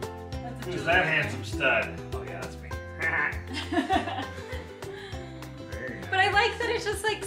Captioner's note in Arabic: يضحك